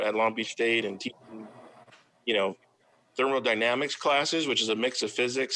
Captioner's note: faintly speaking